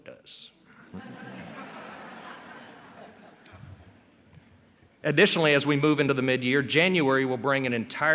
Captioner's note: laughter